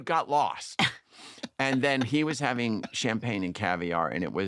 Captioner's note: laughter